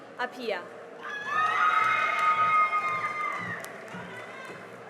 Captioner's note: cheering and applause